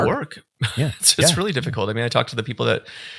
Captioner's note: chuckling